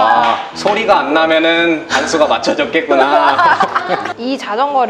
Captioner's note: laughter